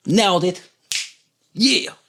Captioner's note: snaps fingers